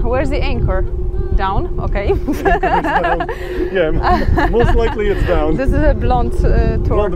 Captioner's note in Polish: śmiech